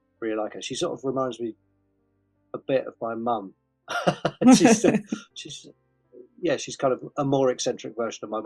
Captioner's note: laughs